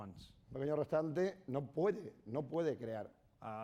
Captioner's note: speaking spanish